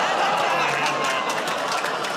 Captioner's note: audience "Oh"s